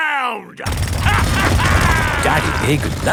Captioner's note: drilling and laughing